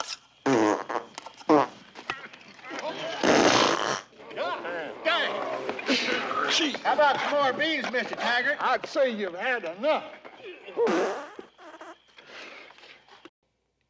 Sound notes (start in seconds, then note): 0.4 pfft!; 2.4 gagging; 3.1 pfft!; 10.8 pfft!